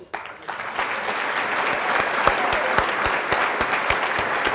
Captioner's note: audience applauding